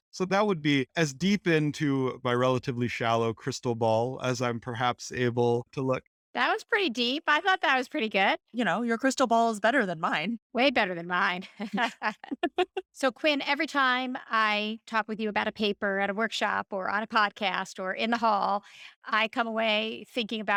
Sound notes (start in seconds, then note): 11.4 laughter